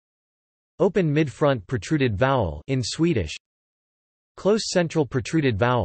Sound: in Swedish; in Swedish

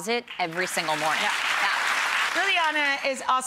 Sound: applause

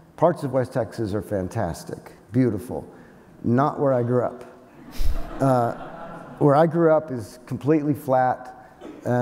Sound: laughter

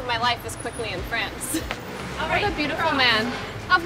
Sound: Madelaine laughs

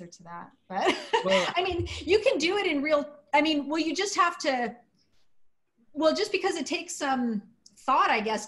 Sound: laughter

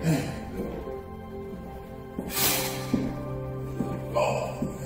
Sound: footsteps

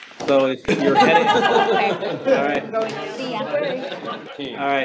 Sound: audience sighs; all chattering, laughing

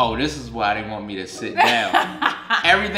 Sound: laughing

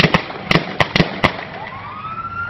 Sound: gunfire

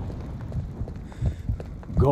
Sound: sound of the flame, the torch being lit; heart is beating

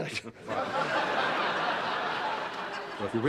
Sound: chuckling

